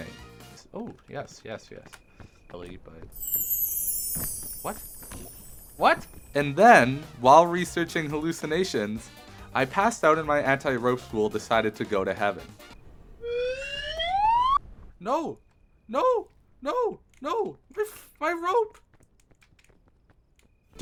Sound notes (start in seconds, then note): 3.2 glitter sfx; 13.2 slide whistle